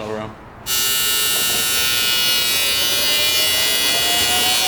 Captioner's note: welder buzzing